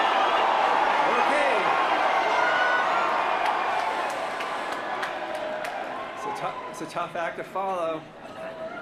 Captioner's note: cheers & applause